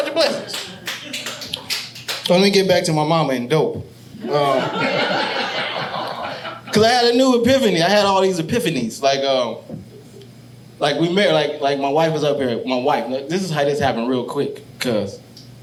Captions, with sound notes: Count your blessings. (audience applauding) Lemme get back to my mama and dope. (audience laughing) Because I had a new epiphany. I had all these epiphanies like, like we married, like my wife was up here, my wife. This is how this happened real quick,